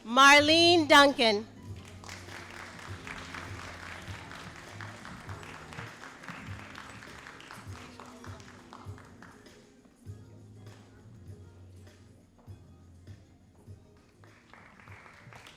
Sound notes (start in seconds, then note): 1.7 all applauding